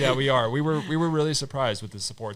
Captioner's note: all laughing